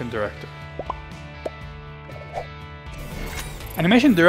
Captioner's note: bubbles popping